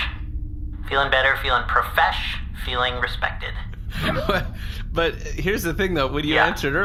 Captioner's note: laughing